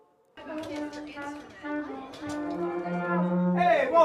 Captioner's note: music classroom bustle